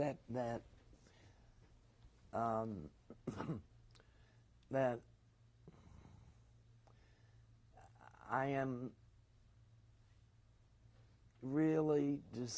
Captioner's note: pauses for 3 seconds